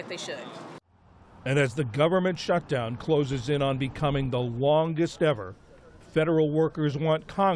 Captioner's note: voice-over